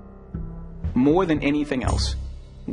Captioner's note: voiceover